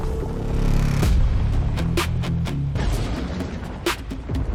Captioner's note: heavy impact